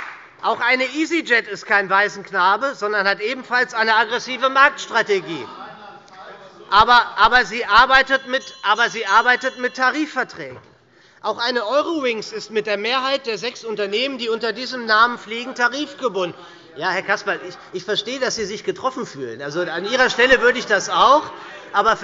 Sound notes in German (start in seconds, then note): 0.0 Beifall bei der SPD - Zurufe von der CDU; 5.4 Zurufe von der CDU